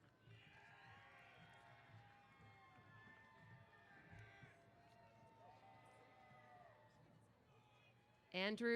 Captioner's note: applause & Cheers